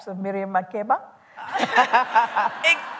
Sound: laughter

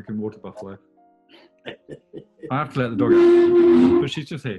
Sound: chuckling

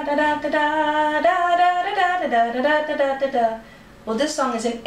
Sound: hums song

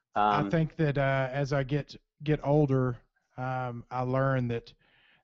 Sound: voiceover

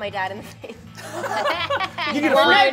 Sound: all laugh

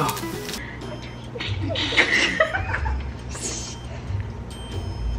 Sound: laughing

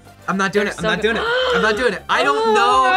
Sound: gasps

